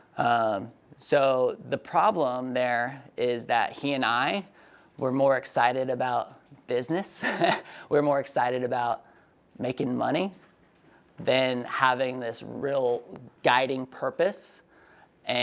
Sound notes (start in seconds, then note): 7.2 laughs